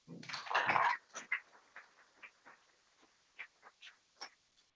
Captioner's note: people clapping